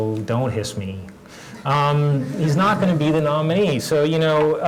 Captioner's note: laugh